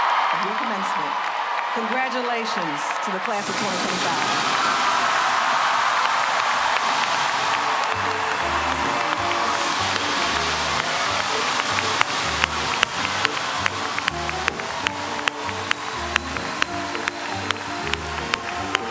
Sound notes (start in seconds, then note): 0.1 applause; 7.6 applause